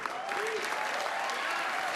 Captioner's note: applause